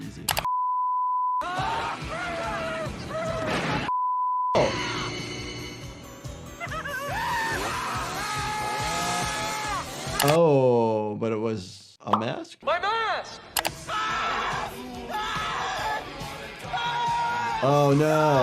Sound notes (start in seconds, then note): 0.4 beep; 1.4 people screaming; 3.9 beep; 6.7 people screaming; 13.4 person screaming